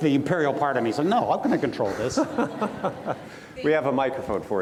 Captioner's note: laughs